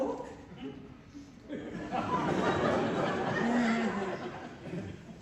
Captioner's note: furious mustache wiggling, laughter